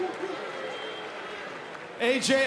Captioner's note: audience cheers and boos